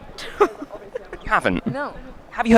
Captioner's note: laughs